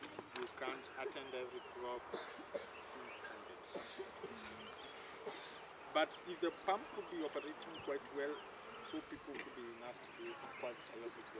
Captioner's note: discussion in background